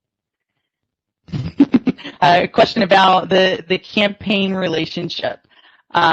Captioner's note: chuckling